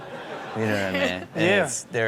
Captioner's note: crowd laughs